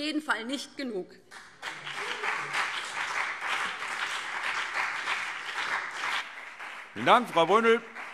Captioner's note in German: Beifall BÜNDNIS 90/DIE GRÜNEN und CDU - Zurufe SPD